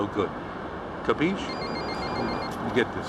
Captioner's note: ringing of cell phone